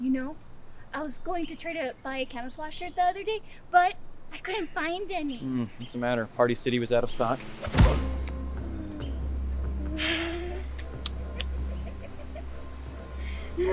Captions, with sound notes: You know, I was going to try to buy a camouflage shirt the other day, but I couldn't find any. - What's the matter, Party City was out of stock? (punch thudding) (Queen Clown laughing)